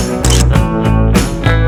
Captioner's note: photo click